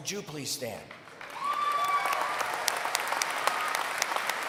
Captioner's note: applause